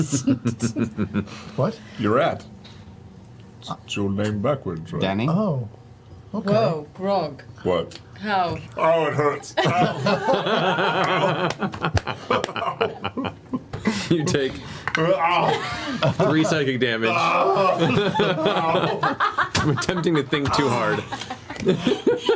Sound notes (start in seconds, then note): 9.5 laughter; 18.9 yells